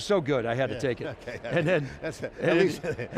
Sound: laughs

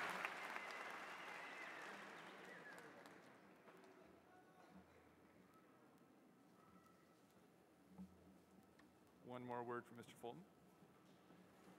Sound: cheers and applause

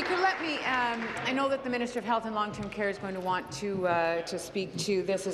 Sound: applause

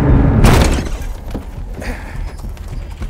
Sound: suspenseful music; door opening; grunting

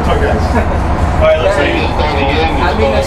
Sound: laughs; radio cuts off speaker

